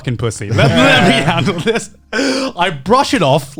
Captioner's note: laughing